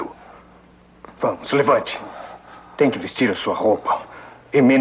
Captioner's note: grunts